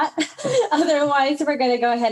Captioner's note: speaker laughing